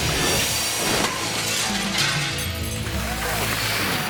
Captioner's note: upbeat music; glass shatters; audience applauds